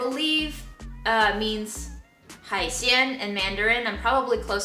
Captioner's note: speaks in foreign language